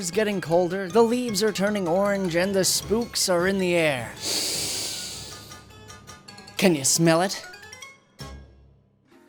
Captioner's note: big Sniff